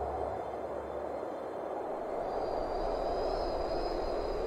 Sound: wind whistling

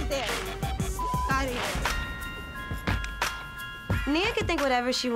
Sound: beep

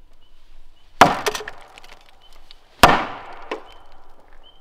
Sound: wood banging

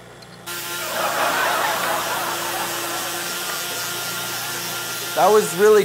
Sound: buzzing

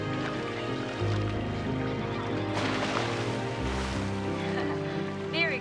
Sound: water splashing

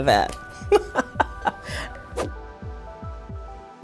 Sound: laughs

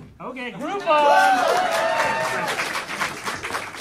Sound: audience cheering

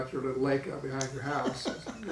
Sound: laughing

